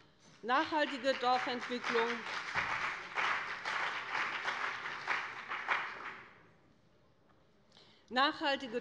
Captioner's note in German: Beifall bei dem BÜNDNIS 90/DIE GRÜNEN und der CDU